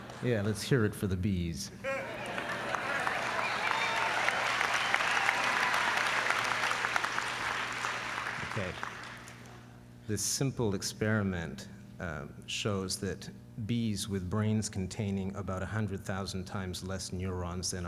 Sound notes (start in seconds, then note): 1.9 applause